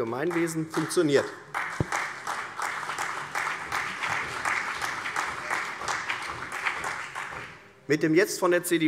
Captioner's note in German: Beifall CDU